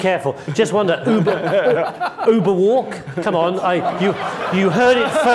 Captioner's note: laughing